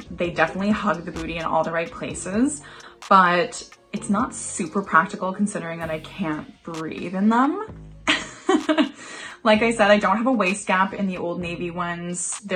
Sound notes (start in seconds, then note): 8.1 laughs